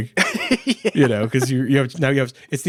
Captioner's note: laughing